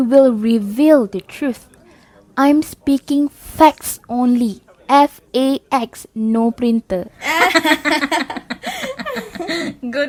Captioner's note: laugh hysterically